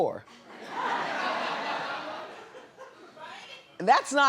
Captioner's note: audience laughs